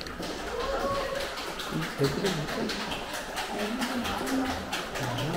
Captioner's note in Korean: 박수